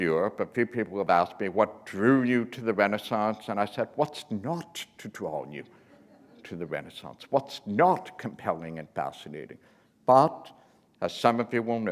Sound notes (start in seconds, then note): 5.8 laughter